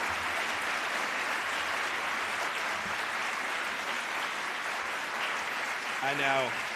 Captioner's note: applause